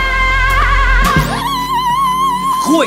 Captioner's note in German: schreit